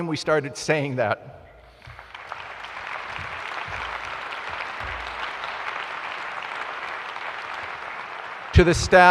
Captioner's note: applause